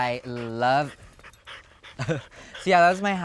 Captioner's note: dogs panting; laughing